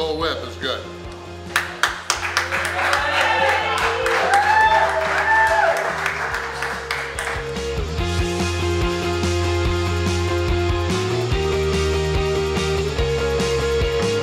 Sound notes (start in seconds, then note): 1.5 cheering & Clapping